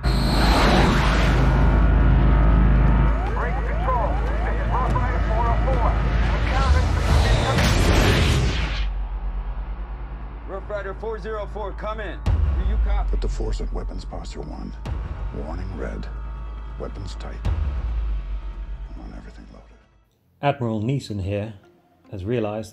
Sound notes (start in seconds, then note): 1.0 aeroplane engine roaring; 7.8 explosion